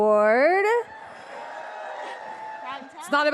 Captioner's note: audience cheering